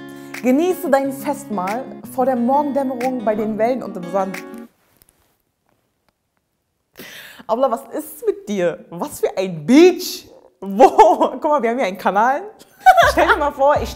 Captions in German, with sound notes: Genieße dein Festmahl vor der Morgendämmerung bei den Wellen und im Sand. Abla, was ist mit dir? Was für ein beach? Wo? (Sie lacht.) Kumma, wir haben hier einen Kanal. (Sie lacht laut.)